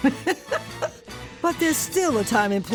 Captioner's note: chuckles